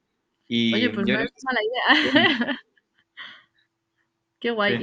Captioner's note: laughs